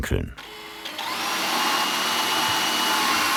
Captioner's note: whirring